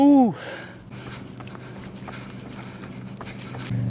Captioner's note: footsteps